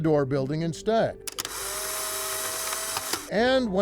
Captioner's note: camera snapping